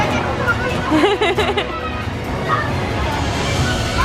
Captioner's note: laughs